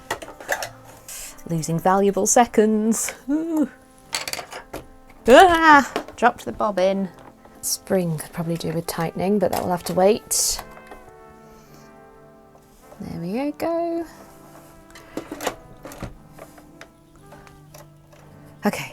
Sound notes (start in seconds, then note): 5.2 yelp; 14.8 bobbin clicks into position